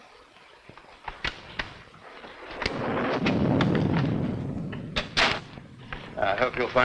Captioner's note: lock clicking; thunder rumbling